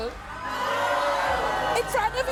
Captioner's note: audience cheering